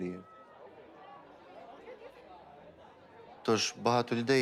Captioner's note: people chattering